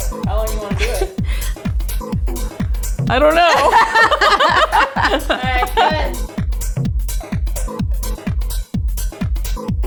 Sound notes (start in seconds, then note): 1.8 lively music; 3.3 laughing; 6.9 lively music